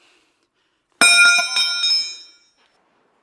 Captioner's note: metal dropping to floor